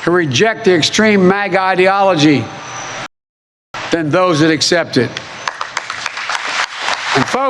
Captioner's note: applause